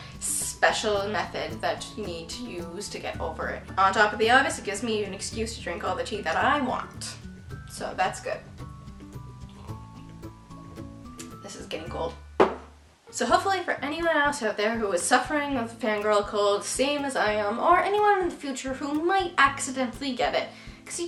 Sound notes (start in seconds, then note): 9.4 sips; 11.5 tsk; 12.4 clunk